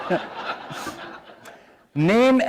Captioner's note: laughter